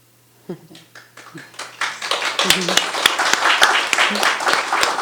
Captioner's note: attendees applauding